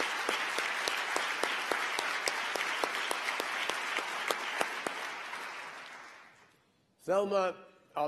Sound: applause

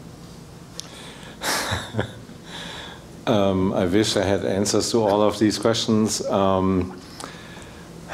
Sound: laugh

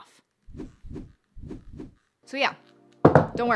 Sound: air whooshing

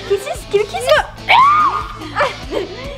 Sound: smooches

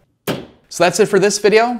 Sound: shelf snaps

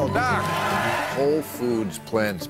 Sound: audience cheering

